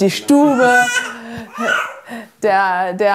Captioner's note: the baby babbles